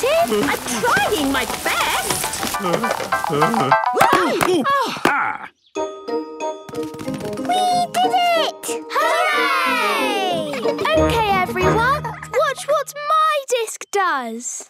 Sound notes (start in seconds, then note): 2.5 groaning; 3.8 exclamations; 10.4 laughter